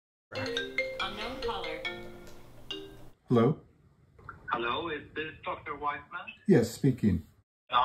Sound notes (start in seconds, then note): 0.3 phone ringing